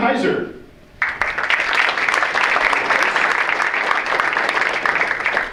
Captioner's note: audience applauds